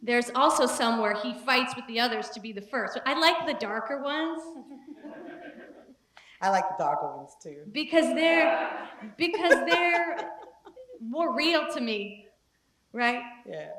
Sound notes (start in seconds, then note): 4.8 laugh